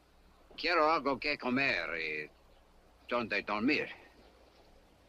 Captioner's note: Lin speaks Spanish